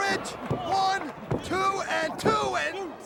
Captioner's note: crowd cheering